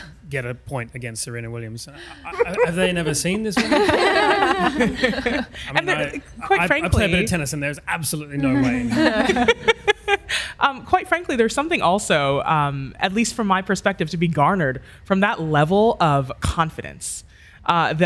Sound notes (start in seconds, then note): 3.8 audience laughs; 8.5 laughs